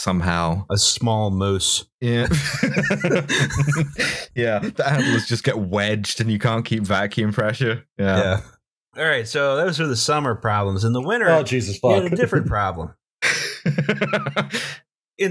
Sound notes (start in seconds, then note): 2.2 laughter